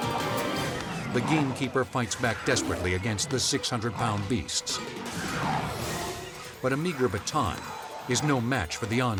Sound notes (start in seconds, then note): 5.5 tigers roar